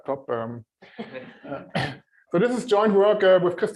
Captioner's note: laughter